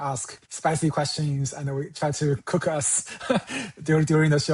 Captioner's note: chuckles